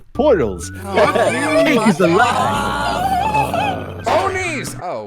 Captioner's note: various groans of exasperation